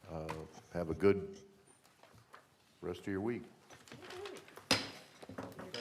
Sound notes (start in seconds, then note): 4.5 gavel bang